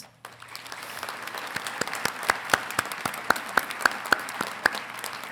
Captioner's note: congregation clapping